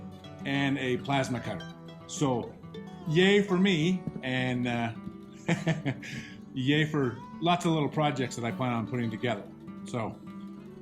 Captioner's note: chuckles